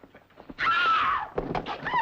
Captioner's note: woman screaming